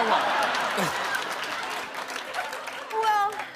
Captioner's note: laughter